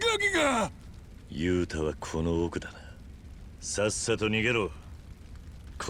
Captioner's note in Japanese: うめき声